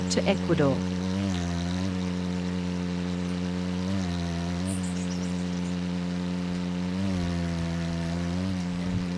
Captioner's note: bird's wing flapping; birds chirping